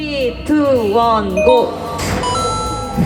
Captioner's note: heart beating